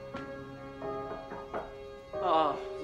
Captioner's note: knocking